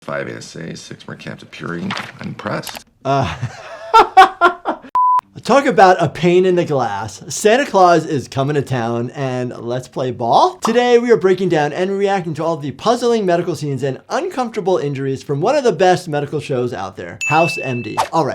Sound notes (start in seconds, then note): 3.1 sighs then laughs; 5.0 digital beep